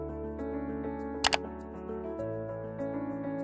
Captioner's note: clicks